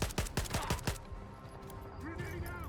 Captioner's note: gunfire